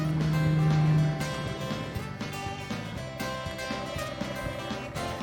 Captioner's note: boat motor revs; country music